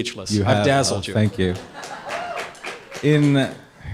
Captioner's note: audience laughter and applause